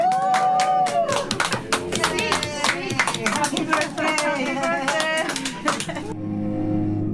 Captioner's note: clapping